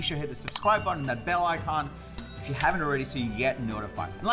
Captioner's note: bell rings